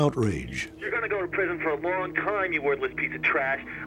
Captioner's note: on phone